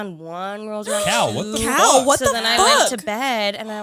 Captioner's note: gasps